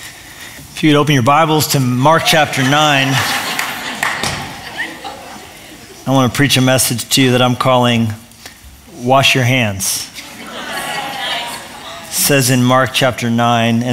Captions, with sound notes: If you could open your bibles to Mark, Chapter 9-- [LAUGHTER] I want to preach a message to you that I'm calling "Wash Your Hands." It says in Mark, Chapter 9--